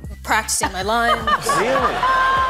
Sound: laughing

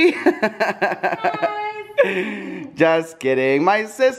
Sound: giggling

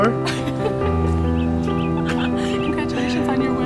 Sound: laughter

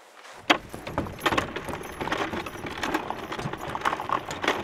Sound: clattering

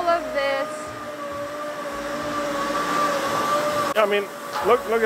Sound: machinery whirring

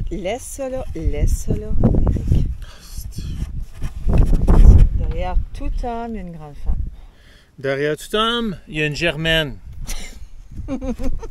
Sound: laughs

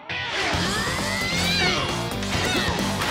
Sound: grunting

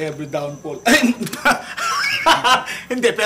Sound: laughs

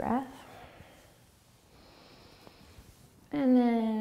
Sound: breathing

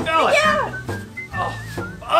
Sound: assistant yells

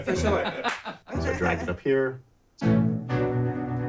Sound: laughs

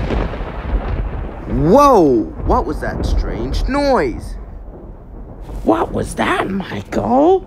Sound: thunder collapses

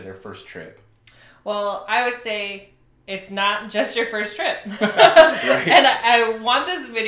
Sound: laughs

